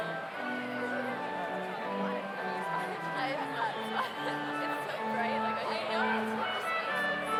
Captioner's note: slow organ music continues; overlapping chattering